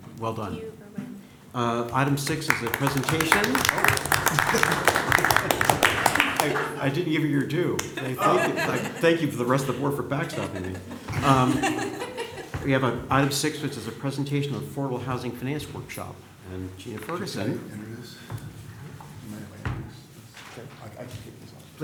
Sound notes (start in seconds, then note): 4.1 applause; 11.1 laughter